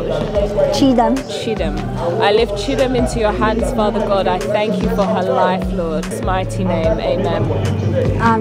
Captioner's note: woman praying